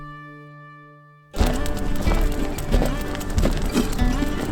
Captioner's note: country guitar music; fire crackling